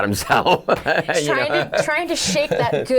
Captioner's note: laughing